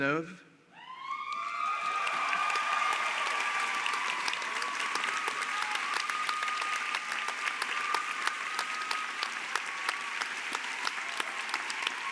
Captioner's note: Applaudissements